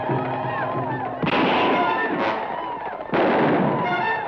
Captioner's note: guns fire